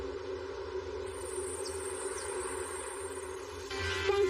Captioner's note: insects chirping